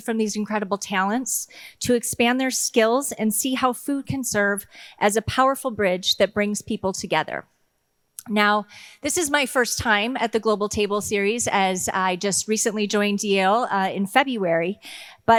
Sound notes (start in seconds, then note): none